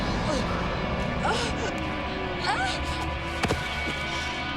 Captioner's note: Jill grunting